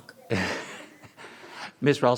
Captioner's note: chuckles